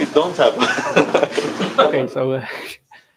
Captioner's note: laughter